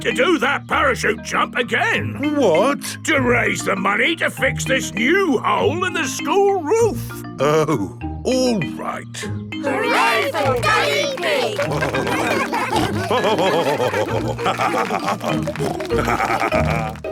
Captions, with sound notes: Because you need to do that parachute jump again! What? To raise the money to fix this new hole in the school roof! Oh. All right. (ALL CHEERING) (LAUGHING) (SNORTING)